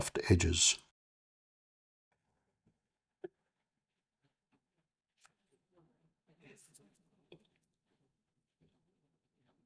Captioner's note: silence